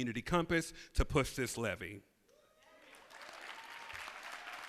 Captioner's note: applause